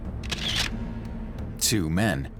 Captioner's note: camera shutter clicks